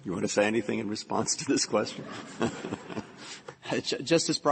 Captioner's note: laughter